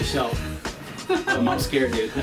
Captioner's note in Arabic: يضحك